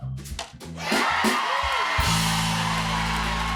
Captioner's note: cheers and applause